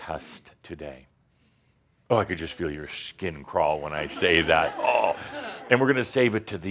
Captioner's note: a few chuckles